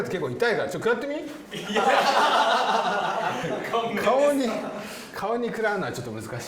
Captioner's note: laughs